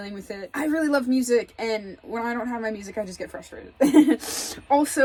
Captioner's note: chuckles